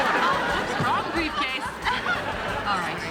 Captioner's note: laughs